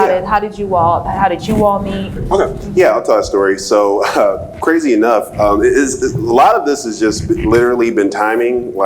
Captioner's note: laughs